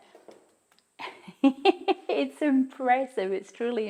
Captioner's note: chuckles